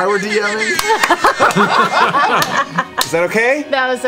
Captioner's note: air horn sounds; laughter